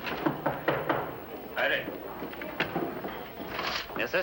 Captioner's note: knocking